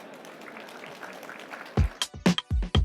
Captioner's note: applause